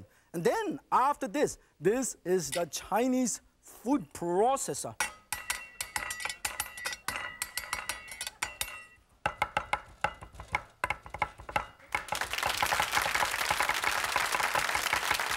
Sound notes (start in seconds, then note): 5.0 knife clanging; 9.4 knives tapping; 11.9 audience clapping